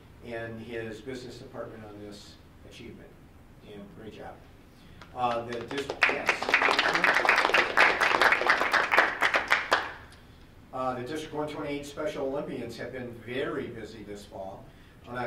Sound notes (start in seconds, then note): 7.7 group applauding